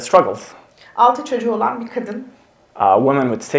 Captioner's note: speaks in Turkish